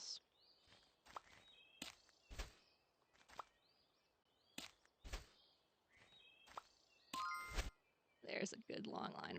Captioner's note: sound effects